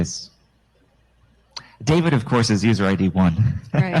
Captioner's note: chuckles